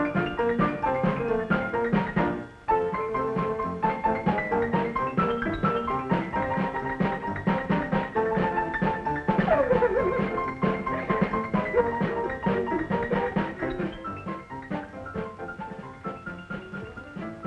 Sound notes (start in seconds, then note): 9.4 Aicha sobs; 14.0 cheerful pianola music